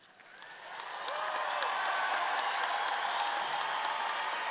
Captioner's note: audience cheering